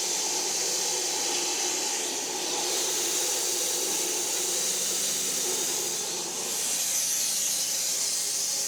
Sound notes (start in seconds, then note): 4.0 saw buzzing continues